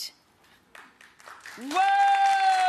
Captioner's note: audience applause